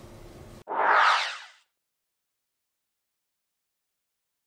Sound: electronic swoosh

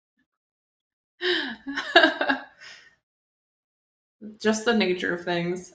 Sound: laughs

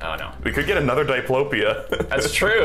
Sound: laughs

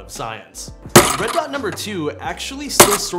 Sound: glass breaking

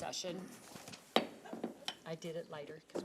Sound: gavel bangs

